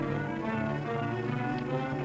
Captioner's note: rain